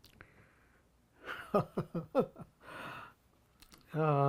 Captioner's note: laughing